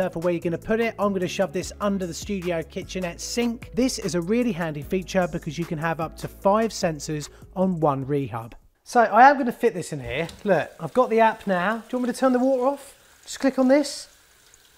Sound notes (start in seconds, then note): 9.2 water running